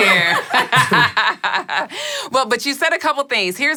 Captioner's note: laughing